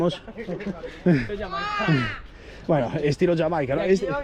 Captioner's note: laughs